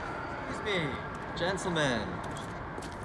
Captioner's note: voiceover